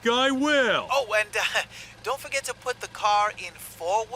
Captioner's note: chuckles